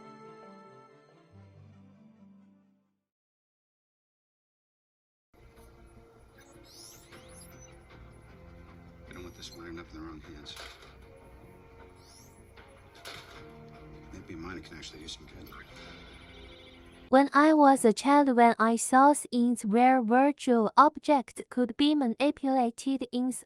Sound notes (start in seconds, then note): 6.5 suspenseful music; 6.5 tones beeping